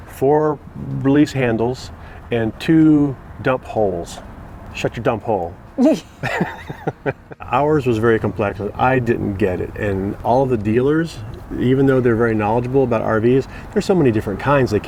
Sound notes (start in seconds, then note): 5.8 laughing